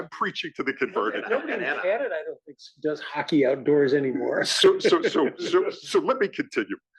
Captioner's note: laugh